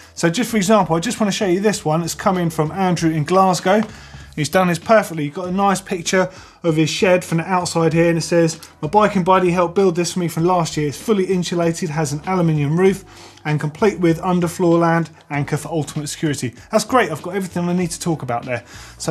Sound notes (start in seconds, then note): none